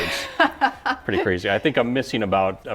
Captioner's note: laughs